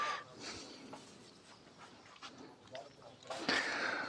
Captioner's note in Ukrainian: сопіння